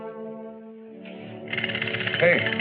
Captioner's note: toy rattles